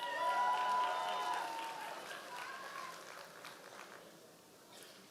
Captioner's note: members of the audience cheering